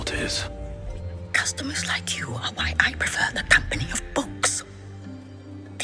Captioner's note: whispers